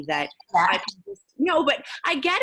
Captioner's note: laughing